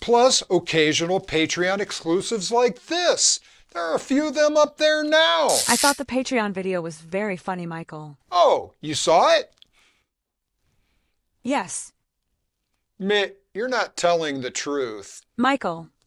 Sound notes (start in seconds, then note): 10.3 long pause